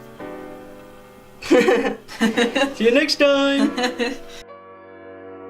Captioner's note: laughs